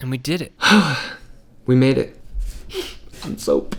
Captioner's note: sighs